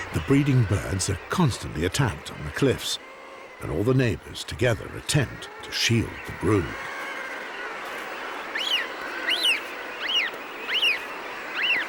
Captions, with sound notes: The breeding birds are constantly attacked on the cliffs and all the neighbors together attempt to shield the brood. [bird squealing]